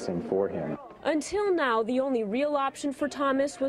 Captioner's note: voiceover